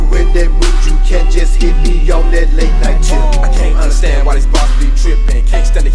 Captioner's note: ohh